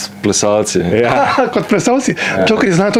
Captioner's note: laughs